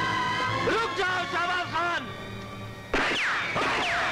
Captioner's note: Gunshot